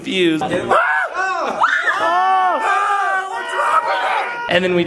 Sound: screaming and shouting

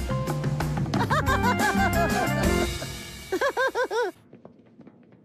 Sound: daffy chatting and laughing with his gal pals

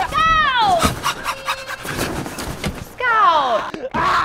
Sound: Scout panting

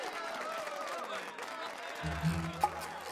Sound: cheers and applause

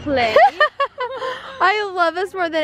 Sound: laughing

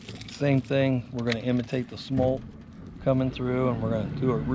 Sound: boat engine idling

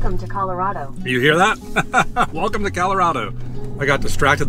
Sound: laughter

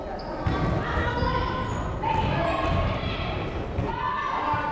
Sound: crowd chattering

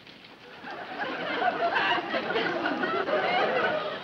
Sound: audience laughs

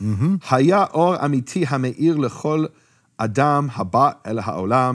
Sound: speaking in foreign language

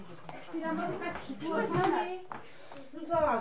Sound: background chatter

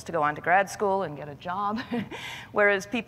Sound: laughs

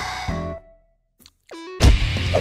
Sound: exhale; pop pop

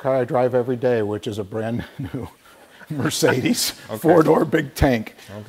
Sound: laughing

